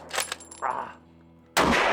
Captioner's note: aahrg of pain